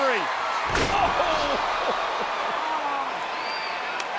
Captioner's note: Cody thuds; crowd cheering; Mark Henry claps